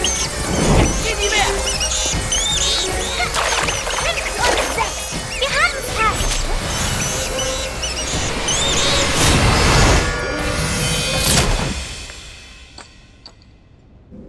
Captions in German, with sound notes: Jetzt, Guinevere! Fünf und sechs, wir haben's fast. Hä? (Fledermauskreischen, zauberhafte Klänge)